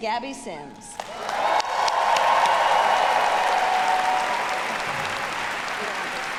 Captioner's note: audience applauding; audience cheering